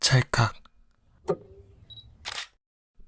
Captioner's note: camera whirring